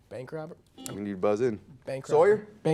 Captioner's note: buzzer